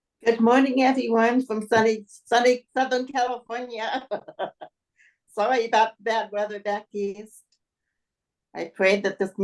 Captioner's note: laughs